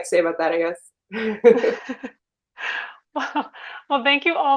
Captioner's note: chuckling